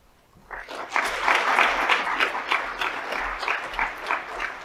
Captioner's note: audience applauds